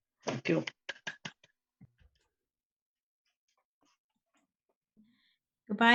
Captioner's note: clapping